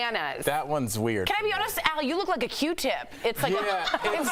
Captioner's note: laughter